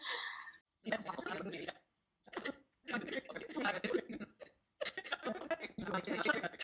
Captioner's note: chipmunk voices